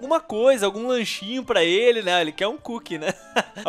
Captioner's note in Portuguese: risos